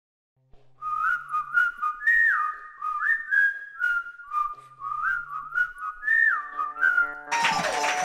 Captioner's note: whistling; audience clapping